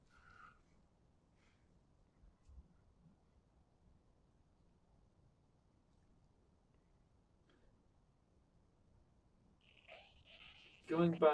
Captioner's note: pauses 11 seconds